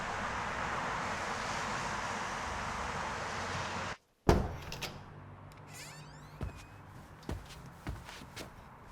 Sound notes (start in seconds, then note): 4.2 door thudding; 5.6 door creaking